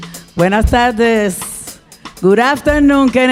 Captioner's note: speaking in Spanish